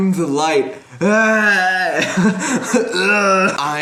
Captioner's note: gaging noises